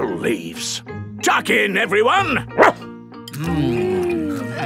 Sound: barks

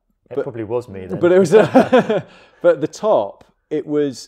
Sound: chuckles

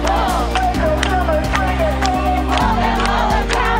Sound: protest leader chanting

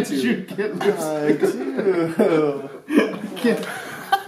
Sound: laughter

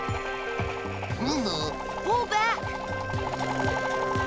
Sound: gasping

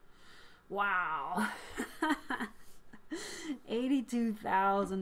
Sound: laughs

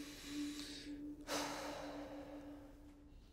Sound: sighs

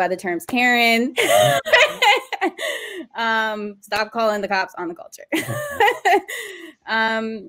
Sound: laughter

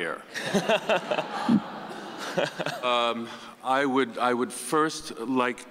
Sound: audience laughing

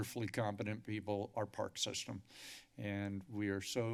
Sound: inhales

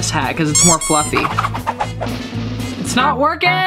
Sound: squeaking

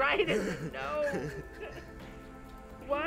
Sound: Hen Laughs

